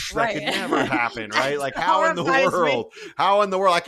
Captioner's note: laugh